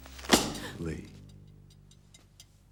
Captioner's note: slam